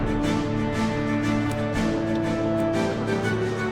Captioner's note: wind whooshing; triumphant music